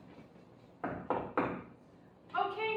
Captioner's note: knocking